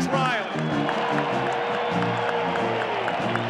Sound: applause

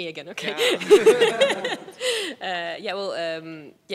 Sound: laughing

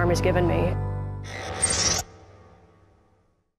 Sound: mechanical sfx

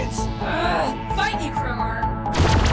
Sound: groans; laser zapping

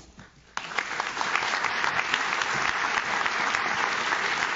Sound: audience claps

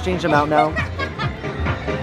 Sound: laughing

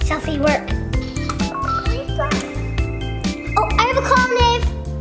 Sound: phone chiming and ringing

